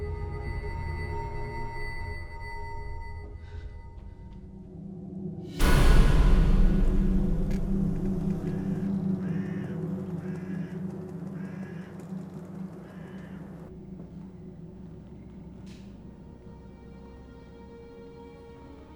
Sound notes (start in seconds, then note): 5.2 spooky music; 7.9 birds cawing